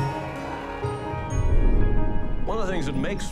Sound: thunder rumbles

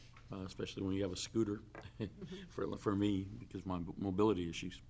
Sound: laughs

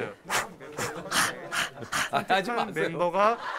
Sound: giggling

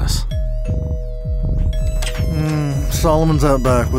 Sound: muffled club music; doorbell ring

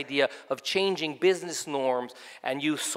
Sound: none

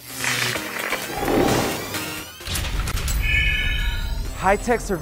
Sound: sound Effects

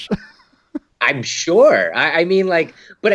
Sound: laughing

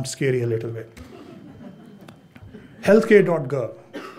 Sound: audience chuckles

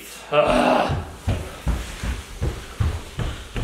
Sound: grunting

